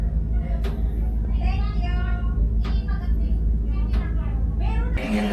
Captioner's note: I heard the sound of three or four people continuously chatting